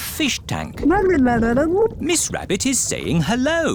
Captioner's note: gurgling